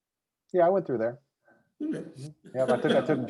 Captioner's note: laughs